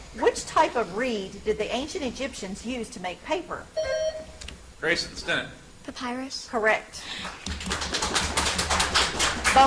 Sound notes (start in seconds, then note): 3.7 buzzer chimes; 7.2 audience applauds